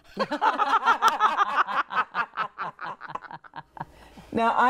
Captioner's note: group laughs